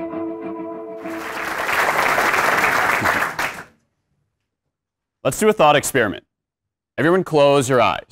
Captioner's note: applause